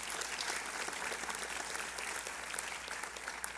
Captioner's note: applause